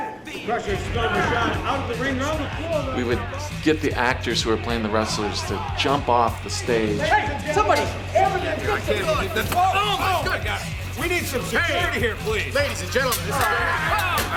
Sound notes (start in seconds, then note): 7.3 people shouting